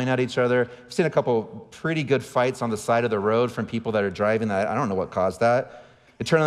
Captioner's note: none